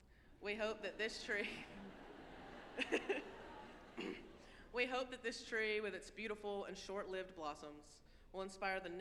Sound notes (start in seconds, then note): 1.5 all chuckling